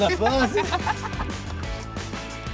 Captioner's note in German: lacht